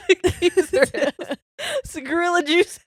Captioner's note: laughing